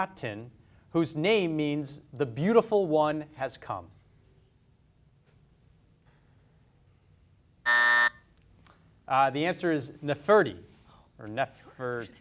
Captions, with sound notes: whose name means the beautiful one has come. (buzzer buzzes) The answer is Neferti or Nefertiti.